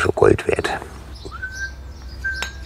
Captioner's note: happy whistling